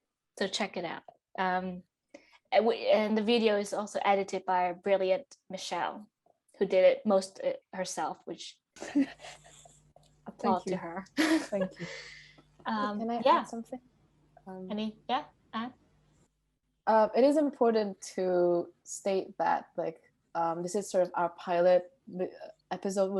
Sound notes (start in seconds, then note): 8.5 laughs